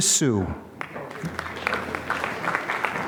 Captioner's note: applause